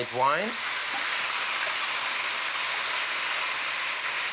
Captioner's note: sizzling